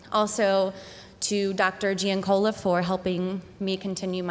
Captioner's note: none